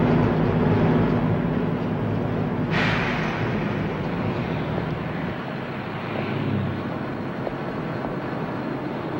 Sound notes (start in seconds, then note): 2.6 trucks hisses and stops